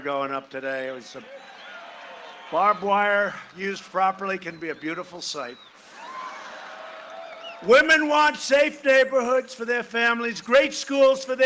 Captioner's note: cheering and applause